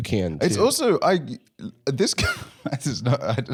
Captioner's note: laughs